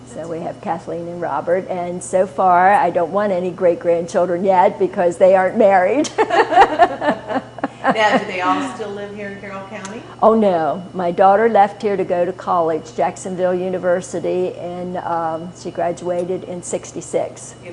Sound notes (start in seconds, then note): 6.0 laughter